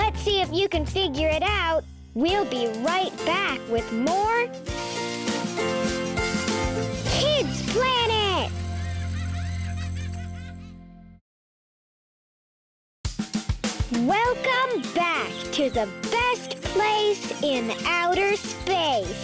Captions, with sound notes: Let's see if you can figure it out. We'll be right back with more, (toys squeaking) "Kids' Planet." (laughing) Welcome back to the best place in outer space,